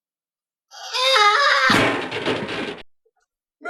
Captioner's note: trash cans banging